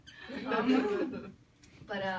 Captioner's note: people laugh